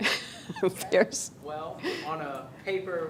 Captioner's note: laughing